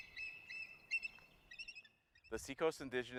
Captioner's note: eagle call